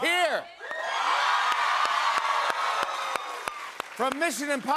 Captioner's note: cheers and applause